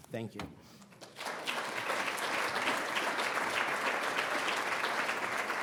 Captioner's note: audience applauding